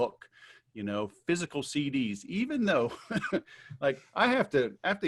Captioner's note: laughs